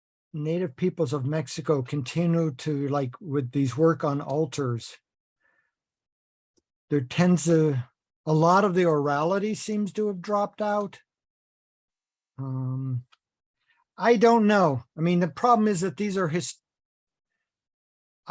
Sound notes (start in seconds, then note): none